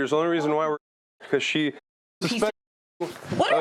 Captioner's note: muted